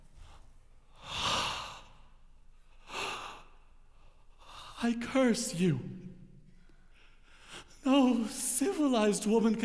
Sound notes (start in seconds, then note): 1.0 gasping